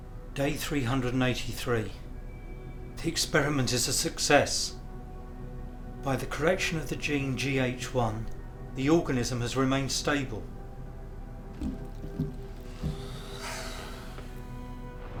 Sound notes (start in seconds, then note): 11.6 light thudding; 12.8 creature hissing